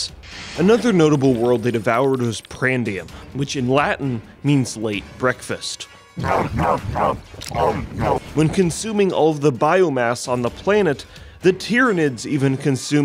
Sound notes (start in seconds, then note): 6.1 Tyranids grunt